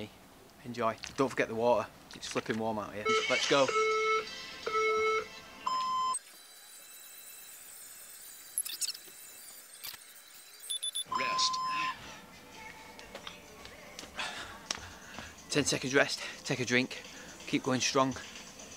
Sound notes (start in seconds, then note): 3.0 counter down timer from the phone on screen is heard